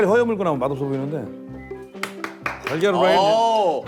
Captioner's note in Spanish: Aplausos